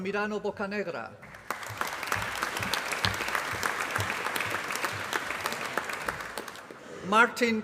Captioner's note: applause